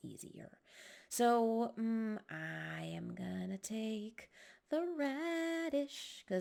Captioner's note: sing-song